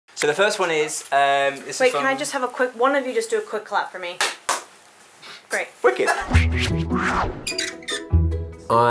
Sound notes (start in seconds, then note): 4.2 clap; 7.2 bubbly orchestral music